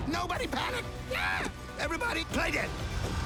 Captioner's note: screams